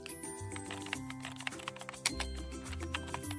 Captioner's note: keyboard typing